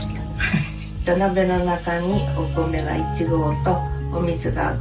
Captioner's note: speaking Japanese